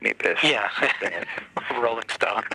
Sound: chuckling

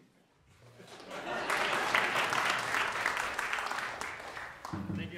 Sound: applause

